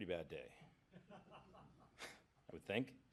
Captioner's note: laughter